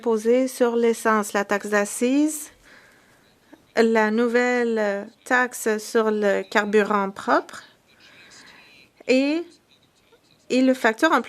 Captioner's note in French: voix de l'interprète